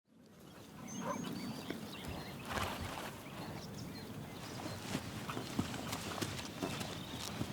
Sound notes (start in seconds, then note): 0.4 birds chirping; 1.0 dog barking